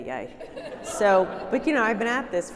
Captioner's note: audience laughing